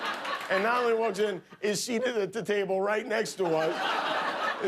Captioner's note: laughter